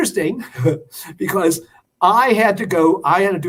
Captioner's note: laughter